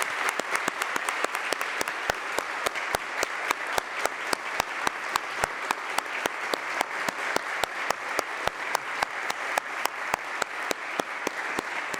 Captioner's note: applause